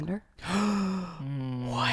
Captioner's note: gasps